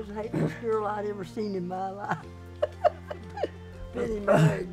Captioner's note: laughs